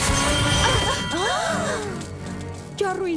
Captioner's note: gasps